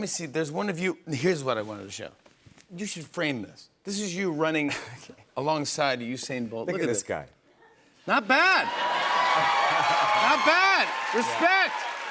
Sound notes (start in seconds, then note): 3.8 chuckling; 8.3 cheers and applause; 9.1 laughs